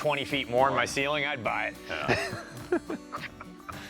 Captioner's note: laughs